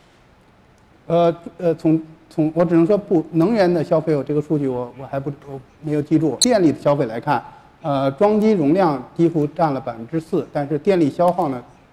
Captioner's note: speaking in Chinese